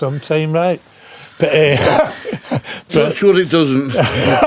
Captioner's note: laughing